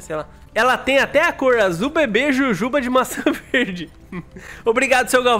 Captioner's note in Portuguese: risos